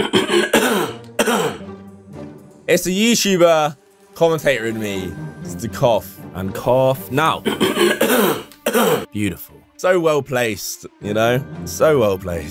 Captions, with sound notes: - As the YouTuber commentator in me, it's the cough, and cough now. (clears throat) Beautiful, so well-placed, so well-placed.